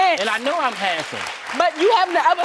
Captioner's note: audience applauding